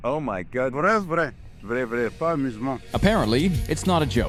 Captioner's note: man speaking in foreign language